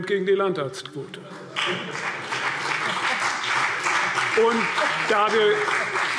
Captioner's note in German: Beifall CDU und BÜNDNIS 90/DIE GRÜNEN